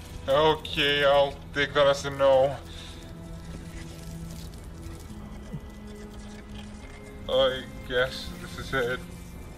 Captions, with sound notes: Okay... I'll take that as a no. *gulps* I guess this is it.